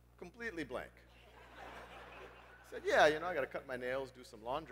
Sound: laugh

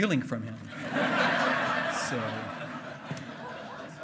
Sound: hearty laughing

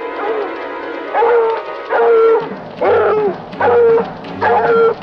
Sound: suspenseful music; dogs barking

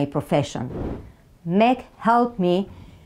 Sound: slide whooshes

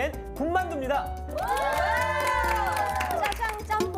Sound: applause

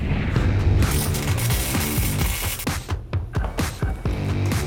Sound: zapping

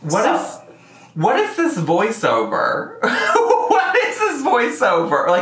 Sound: laughs

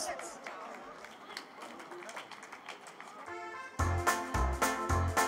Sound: audience applauding

